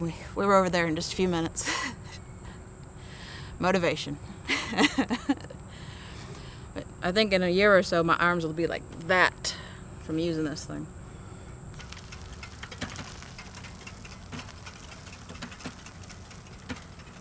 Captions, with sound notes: And we were over there in just a few minutes. [laughs] Motivation. [laughs] I think in a year or so my arms will be like that from using this thing. [sound of wheelchair]